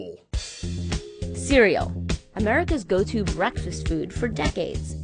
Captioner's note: voice-over